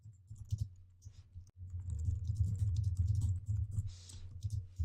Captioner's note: typing